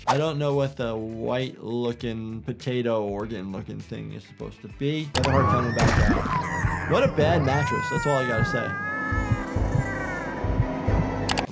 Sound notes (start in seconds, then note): 6.0 heart squelches; 6.9 Petunia screaming; 8.6 Petunia scream fading; 9.6 Petunia gargles; 10.5 scary music; 11.2 mouse clicks